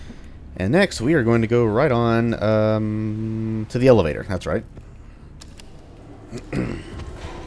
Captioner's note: clears throat